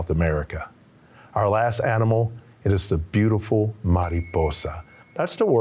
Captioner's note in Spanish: hablando en español